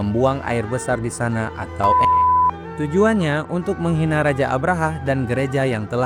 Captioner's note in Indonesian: beep